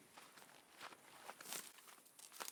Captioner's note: walking